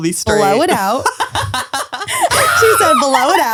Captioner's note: laughs; screams